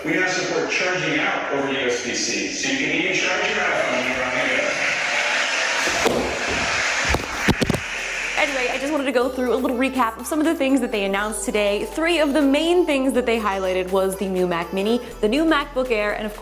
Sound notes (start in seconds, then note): 5.1 applause; 5.8 body falling